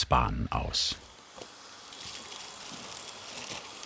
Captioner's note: A faint whirring sound in the background